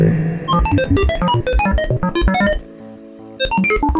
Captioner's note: beeping